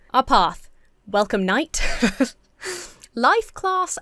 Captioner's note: laughs